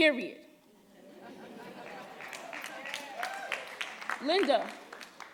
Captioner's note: audience cheering and applauding